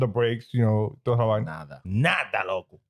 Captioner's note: speaking In Foreign Language